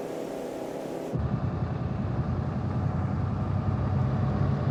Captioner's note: engine humming